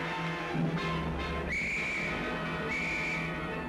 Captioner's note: whistle blowing